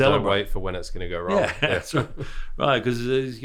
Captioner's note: laughs